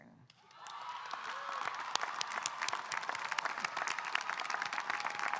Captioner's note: audience cheering and applauding